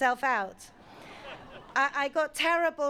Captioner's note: audience laughing